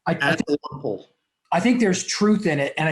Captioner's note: static audio